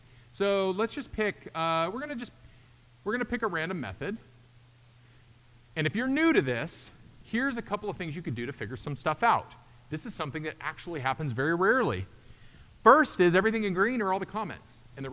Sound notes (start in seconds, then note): none